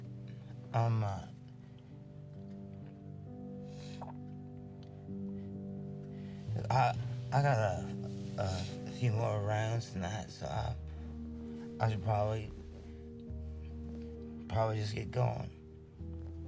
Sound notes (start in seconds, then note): none